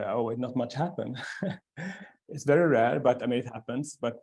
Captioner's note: chuckles